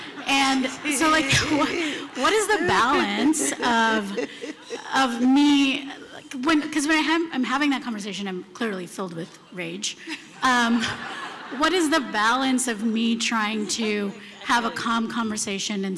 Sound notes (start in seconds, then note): 10.0 laughter